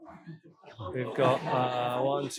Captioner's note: audience chattering